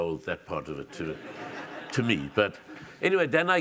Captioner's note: audience laughs